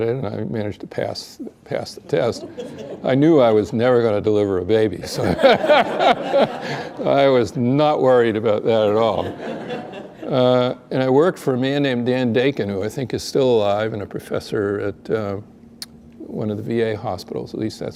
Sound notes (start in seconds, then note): 5.2 laughter